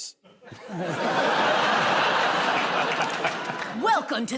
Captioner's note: laughter